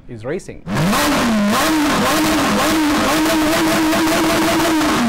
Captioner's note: engines revving